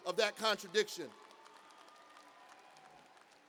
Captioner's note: cheers and applause